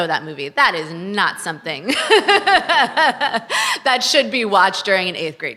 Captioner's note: laughs